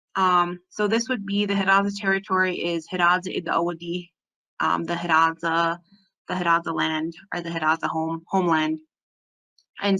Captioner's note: speaking Hidatsa